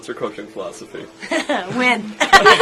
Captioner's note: laughter